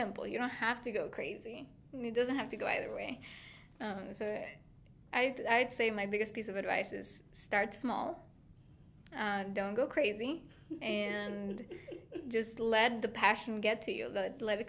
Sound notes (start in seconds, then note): 10.5 laughing